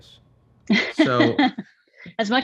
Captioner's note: Frances laughs